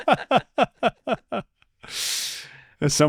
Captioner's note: both laughing